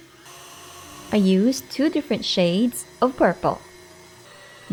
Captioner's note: mixer running